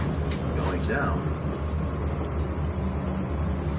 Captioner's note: voice-over